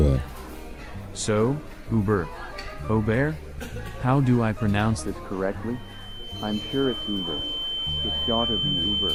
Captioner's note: high-pitch sound